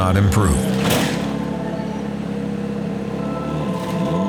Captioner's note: crashing sound